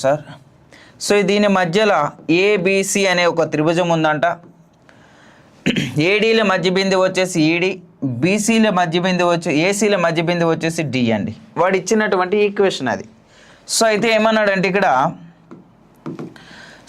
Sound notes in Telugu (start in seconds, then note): 5.6 గొంతు సవరించుకోవడం